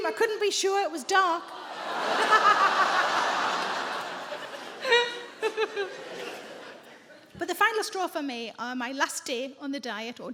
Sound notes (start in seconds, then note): 1.9 audience groans; 1.9 sarah laughs